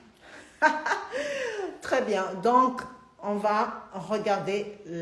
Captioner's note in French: Rires